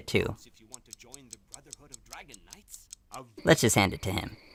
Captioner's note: clock ticking